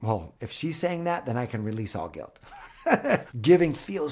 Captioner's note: laughs